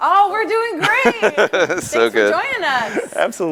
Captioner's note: laughs